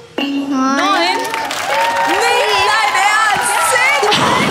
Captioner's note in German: Jubel